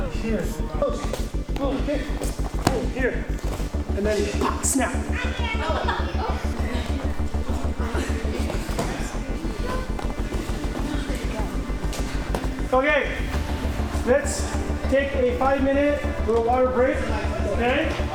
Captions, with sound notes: Here, oh, oh, here, oh, here. And then, snap. (laughing) Okay, let's take a five minute little water break, okay?